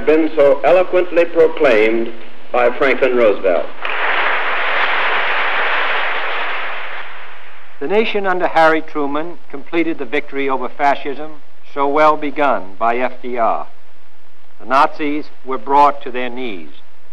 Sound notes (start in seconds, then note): 3.8 applause